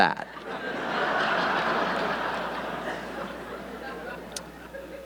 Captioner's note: audience laughing